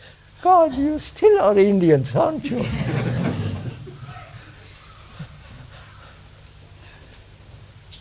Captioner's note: laughs